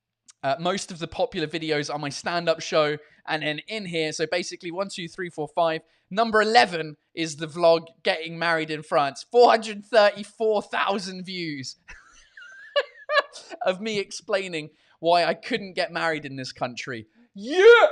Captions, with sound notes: Most of the popular videos are my stand-up show, and then in here, so basically once, two ,three, four, five, number 11 is the vlog "Getting Married in France". Four hundred and thirty-four thousand views! *laughs* Of me explaining why I couldn't get married in this country! Yeah!